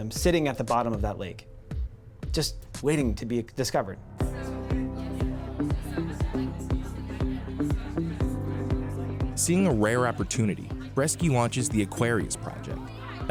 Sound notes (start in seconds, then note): 4.1 upbeat music; 4.3 students talking